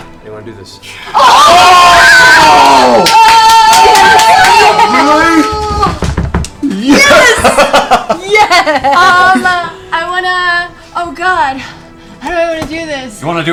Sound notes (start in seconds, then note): 1.1 cheering